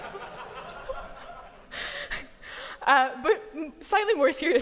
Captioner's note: laughter